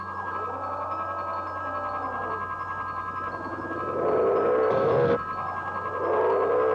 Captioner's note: crystal chiming; dinosaur roaring